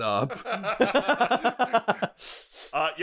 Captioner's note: laughter